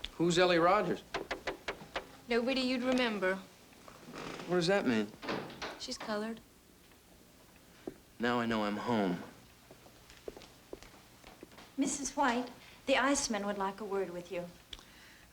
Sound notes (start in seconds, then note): none